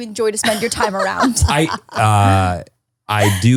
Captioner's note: laughs